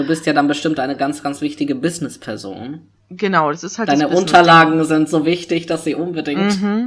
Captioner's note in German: ironie